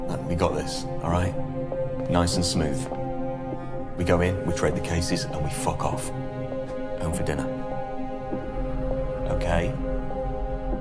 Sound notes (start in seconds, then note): none